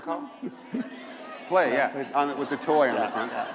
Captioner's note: laughter